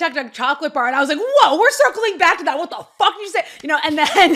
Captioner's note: laughter; laughing